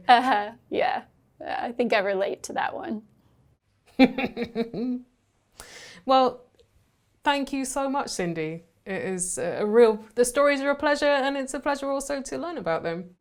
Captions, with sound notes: U-huh. Yeah, I think I relate to that one. [chuckling] Well, thank you so much, Cindy. It's a real... The Stories are a pleasure, and it's a pleasure also to learn about them.